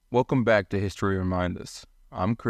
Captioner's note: voiceover